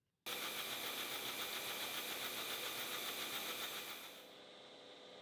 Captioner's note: machine whirring